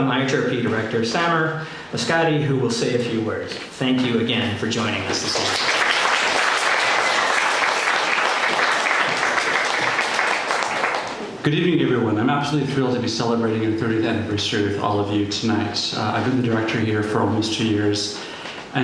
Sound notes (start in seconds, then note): 4.8 people applauding